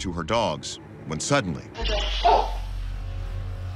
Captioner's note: barks